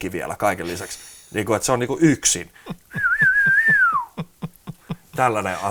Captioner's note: whistles to pre-chorus harmonic